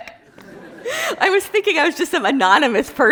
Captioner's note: class laughing